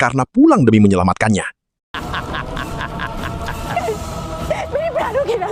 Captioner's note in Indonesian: tertawa